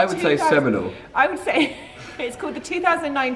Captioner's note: laughs